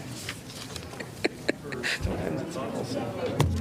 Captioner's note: laughter